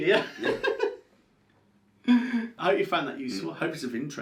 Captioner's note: laughs